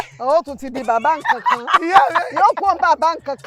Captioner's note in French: Rires